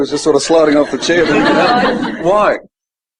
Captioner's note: audience laughing